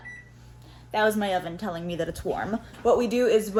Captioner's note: angry oven noises